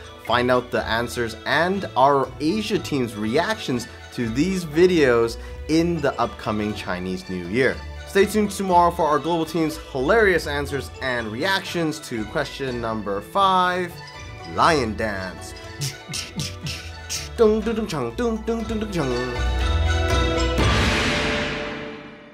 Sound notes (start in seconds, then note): 15.5 imitates drums; 19.4 festive music